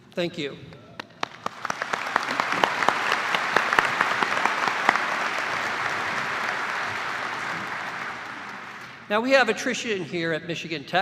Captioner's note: cheers and applause